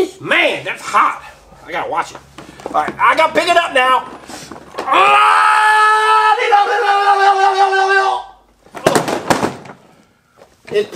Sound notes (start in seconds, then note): 5.0 mechanic yells; 8.7 car crashes